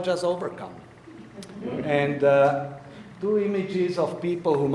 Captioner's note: audience laughing